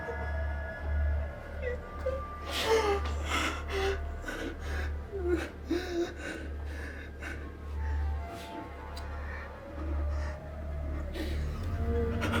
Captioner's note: crying